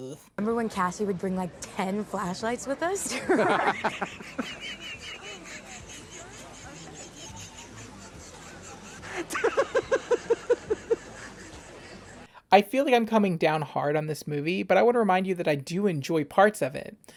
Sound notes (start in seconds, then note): 3.1 laughing uncontrollably; 9.0 MORE laughter